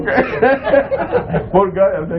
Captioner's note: laughter